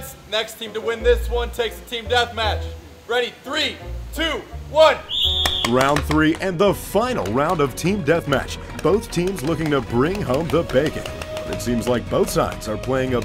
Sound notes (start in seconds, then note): 5.0 whistle blowing